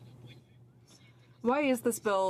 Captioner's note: speaking French